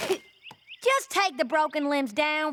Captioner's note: spits